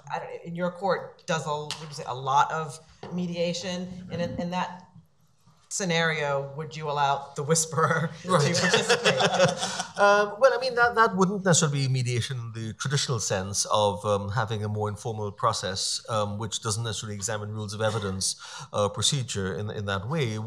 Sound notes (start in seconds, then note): 8.0 laughing